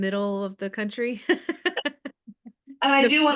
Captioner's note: laughs